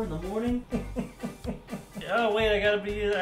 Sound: laughing

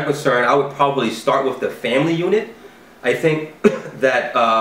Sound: cough

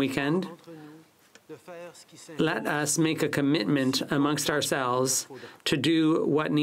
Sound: speaking french

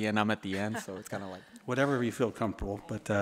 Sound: board members laughing

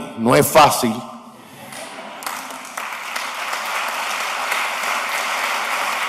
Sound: laughter, applause

